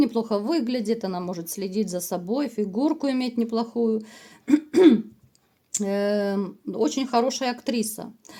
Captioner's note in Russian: откашливается